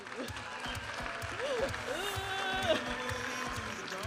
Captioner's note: audience applauding and cheering